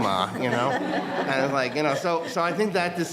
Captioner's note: audience laughing